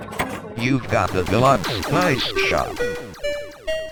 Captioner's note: Flipper speaks in English